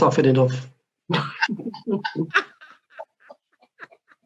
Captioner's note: laughter